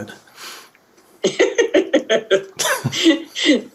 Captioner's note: laughter